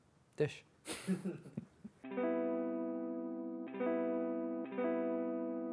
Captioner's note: laughs; guitar outro